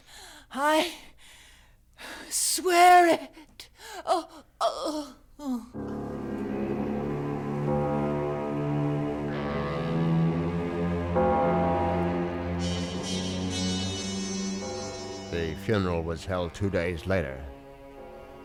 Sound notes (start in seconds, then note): 3.7 groaning; 5.7 dramatic music plays